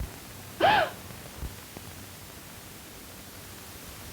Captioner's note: gasps